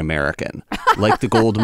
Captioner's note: laughter